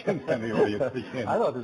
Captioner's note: laughing